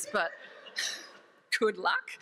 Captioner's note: audience laughs